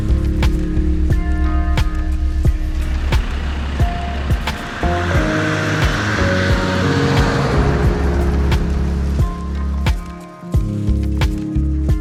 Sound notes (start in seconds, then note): 2.2 vehicle rumbling; 8.8 chill upbeat music